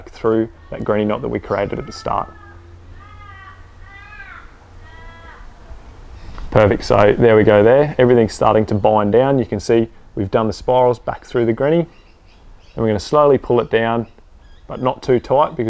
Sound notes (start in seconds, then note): 2.8 birds cawing